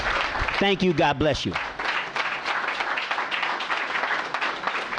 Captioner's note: applause